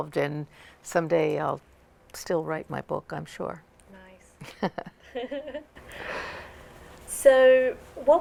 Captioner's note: laughter